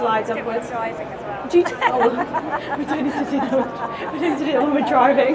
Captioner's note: laughs